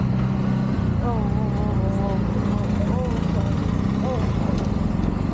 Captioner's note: stressed out noises